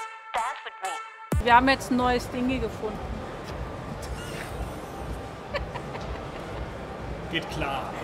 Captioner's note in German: lacht